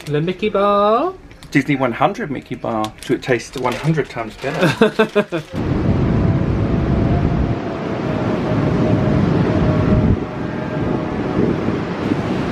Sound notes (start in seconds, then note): 4.5 laughs; 5.5 wind blowing loudly